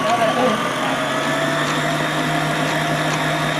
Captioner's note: mixer whirs